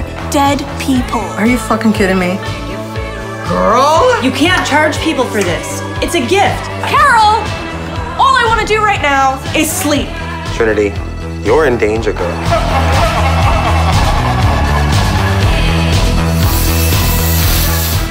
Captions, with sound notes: dead people. -Are you fucking kidding me? -Girl?! -You can't charge people for this. It's a gift. -Carol! All I wanna do right now, is sleep. -Trinity. You're in danger, girl. [maniacal laughter] [spray can hisses]